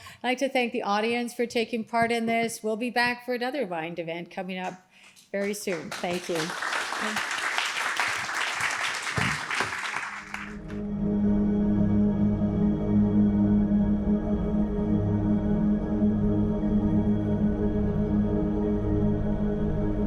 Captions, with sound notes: I'd like to thank the audience for taking part in this. We'll be back for another wind event coming up very soon. Thank you. [APPLAUSE]